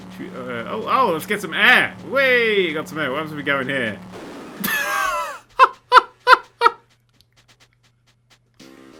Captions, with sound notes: Oh lets get some air! Wayyy! Got some air what happens if we go in here (laughing)